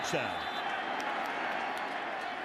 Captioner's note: whistle